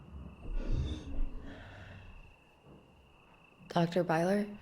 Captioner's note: object creaking